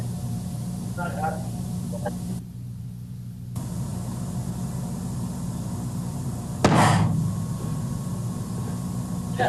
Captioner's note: gunshot